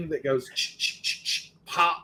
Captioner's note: mimicking clicking